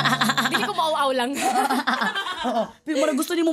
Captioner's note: laughs